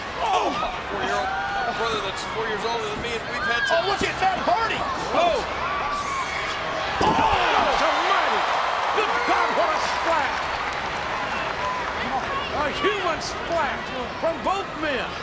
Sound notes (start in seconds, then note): 8.7 spectators cheering; 10.8 spectators applauding